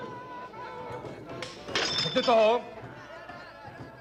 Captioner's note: kepler shouts